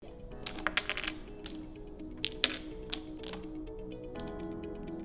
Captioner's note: wooden blocks clattering